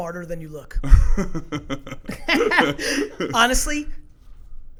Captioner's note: laughs